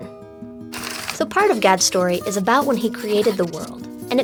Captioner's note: drawing sounds